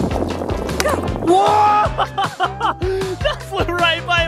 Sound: laughing

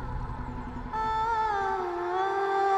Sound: poignant vocalisation

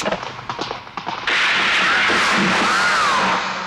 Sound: gunshot

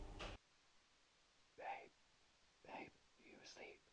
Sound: whispers

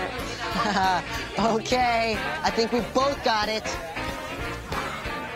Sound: laughs

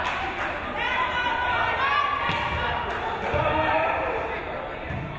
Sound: crowd

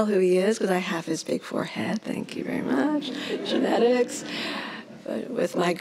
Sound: laughs

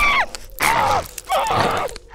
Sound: screaming; fleshy chewing

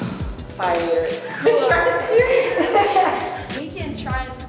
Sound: all laughing

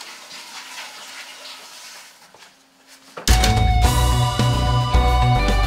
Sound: door opening and closing

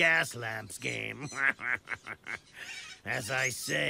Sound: laughs

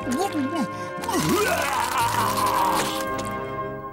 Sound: vomiting

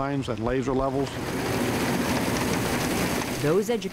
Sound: hum of motor

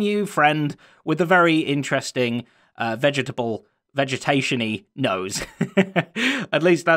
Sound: chuckles

